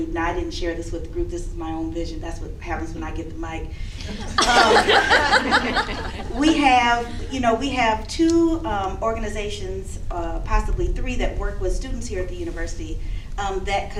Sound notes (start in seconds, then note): 4.0 laughter